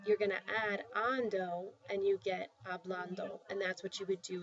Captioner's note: spanish; spanish